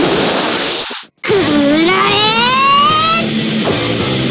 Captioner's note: roaring